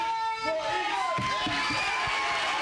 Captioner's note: applause